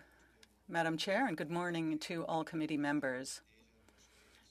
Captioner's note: speaking French